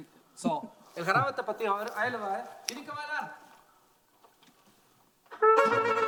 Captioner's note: speaking in foreign language